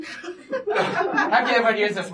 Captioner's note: laughter